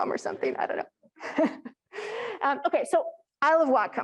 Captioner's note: chuckles